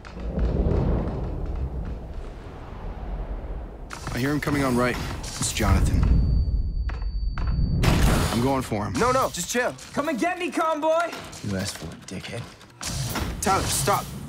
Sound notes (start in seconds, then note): 0.0 wind rushing; 6.0 high pitch frequency resonating; 7.8 guns firing